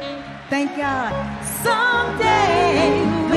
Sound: audience cheer and clap

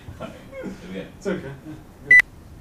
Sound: laughter

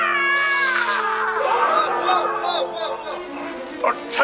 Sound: screams in agony; CENTI-PEOPLE panicking

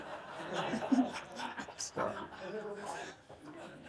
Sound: audience laugh

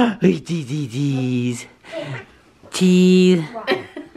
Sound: baby talks

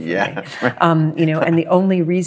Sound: laughs

